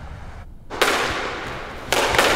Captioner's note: Sounds of racquet smashing balls